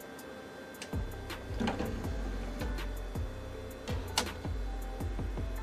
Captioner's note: clunking, whirring